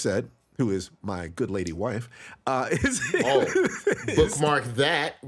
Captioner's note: laughs